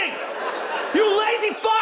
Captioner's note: audience laughs